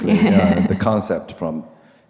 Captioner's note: laughs